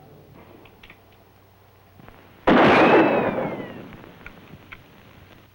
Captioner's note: gunshots